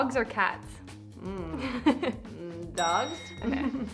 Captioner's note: chuckles